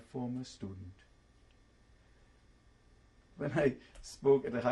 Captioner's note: pauses for 3 seconds